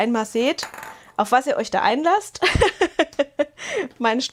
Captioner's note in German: gelächter